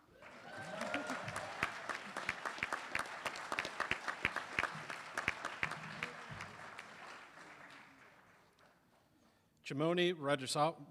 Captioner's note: applause